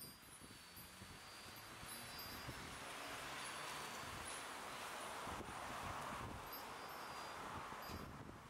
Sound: wind chime noises

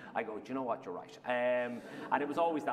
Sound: laughter

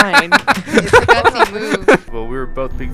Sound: voiceover

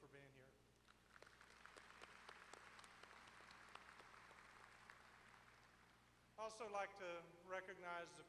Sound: applause

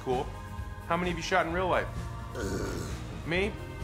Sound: groans

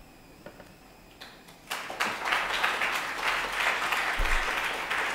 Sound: applause

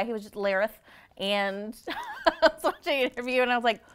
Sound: laughing

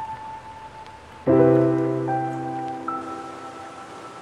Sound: suddenly it rains

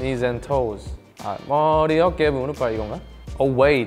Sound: speaking in Korean

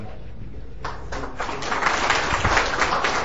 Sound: audience applauding

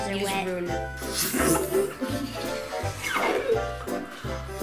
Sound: bubble effects

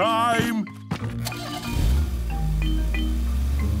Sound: engine starting

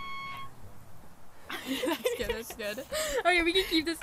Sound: guitar screech; laughing

